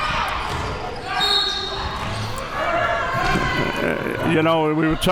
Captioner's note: whistle blowing